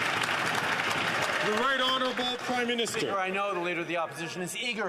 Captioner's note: some Applause